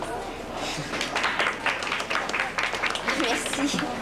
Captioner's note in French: Applaudissements